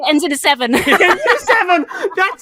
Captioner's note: laugh